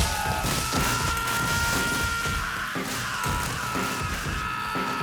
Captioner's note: screaming